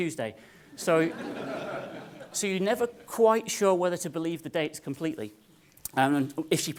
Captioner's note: laugh